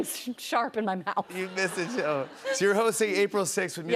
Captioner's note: laughter